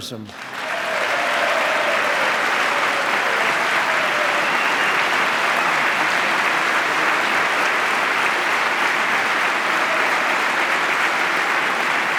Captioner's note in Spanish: aplauso